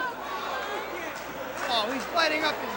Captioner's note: crowd chatter